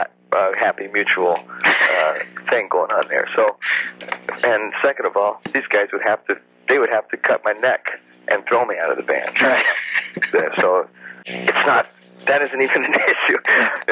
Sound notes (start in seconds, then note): 3.6 laughs; 9.3 chuckles